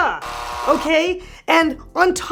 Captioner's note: loud buzzing